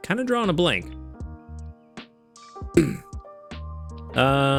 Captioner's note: clears throat